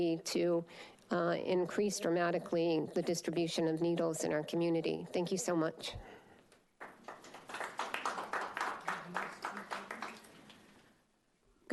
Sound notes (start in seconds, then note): 6.8 attendees applauding